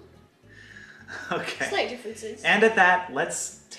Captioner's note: laughs